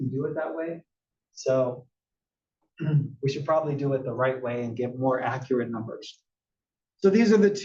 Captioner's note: cough